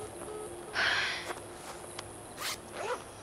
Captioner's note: sighs; beeping